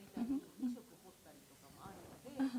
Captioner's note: speaking japanese